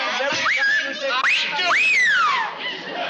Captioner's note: whistling